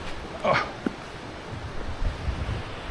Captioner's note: old man noises